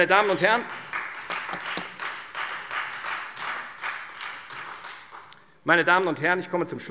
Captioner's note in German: Beifall Freie Demokraten